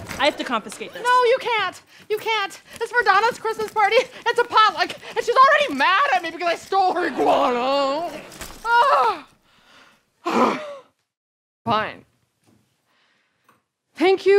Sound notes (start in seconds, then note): 10.2 huffs